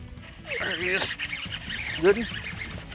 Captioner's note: reel screeching